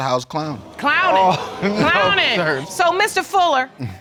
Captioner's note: laughs